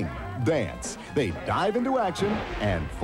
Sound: splash

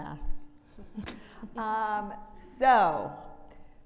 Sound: woman chuckling

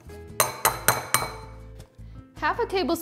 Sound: metal clanks

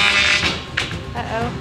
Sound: tapper buzzing

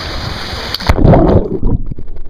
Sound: splashing

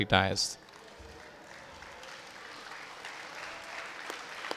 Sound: audience applauding

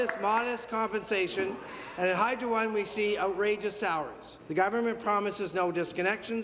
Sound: applause

